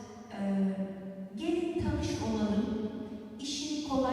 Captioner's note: non-english speech